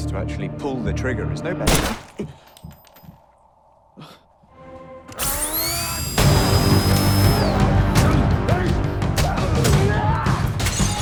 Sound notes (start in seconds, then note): 1.6 gun fires; 4.5 intense music; 5.8 men grunting